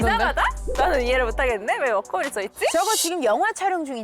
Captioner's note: gotcha! sound effect